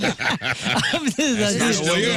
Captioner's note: laughing